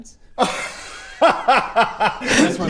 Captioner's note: very amused noises